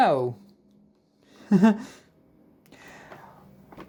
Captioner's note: chuckles